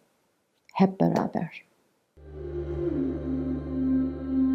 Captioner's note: speaking Turkish